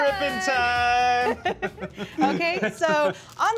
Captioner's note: laughs